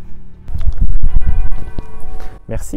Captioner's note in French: coup de cloche